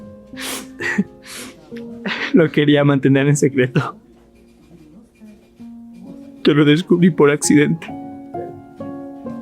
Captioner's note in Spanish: resoplido; risas